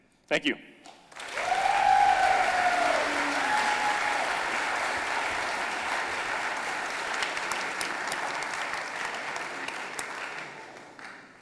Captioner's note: audience applauding